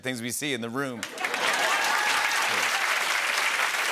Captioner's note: laughter and applause